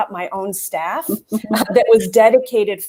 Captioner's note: laughter